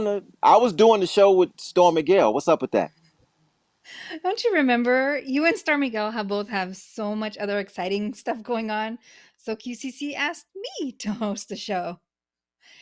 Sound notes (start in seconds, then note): none